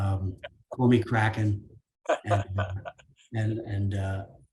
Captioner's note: laughing